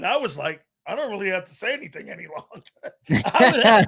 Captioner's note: laughing